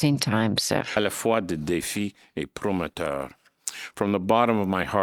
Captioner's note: speaking in French